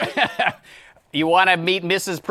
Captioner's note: laughs